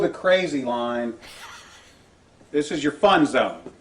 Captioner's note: host laughs